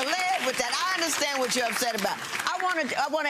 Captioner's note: audience applauding